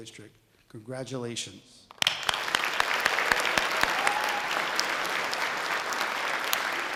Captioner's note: sustained audience applause